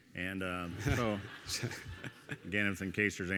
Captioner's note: audience laughing